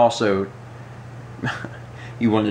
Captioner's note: chuckles